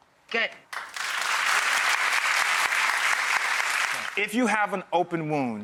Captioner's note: clapping